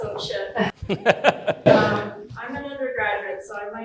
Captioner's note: laughing